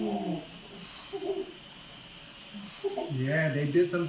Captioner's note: chuckles